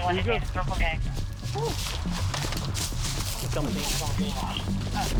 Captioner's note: intense music; officers chattering